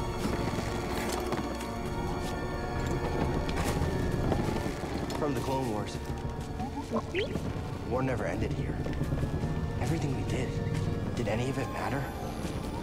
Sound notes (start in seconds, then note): 6.6 woo-woo-boop-beep